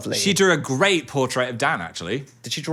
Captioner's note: none